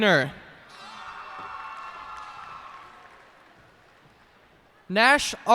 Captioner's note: cheers and applause